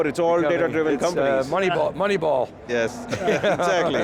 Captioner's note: laughs